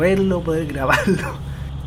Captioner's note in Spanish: entre risas